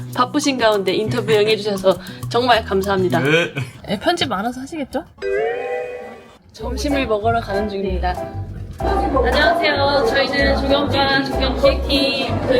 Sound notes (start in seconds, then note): 5.2 comical sound effect; 6.6 cheerful music